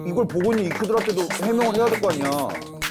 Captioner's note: finger tip applause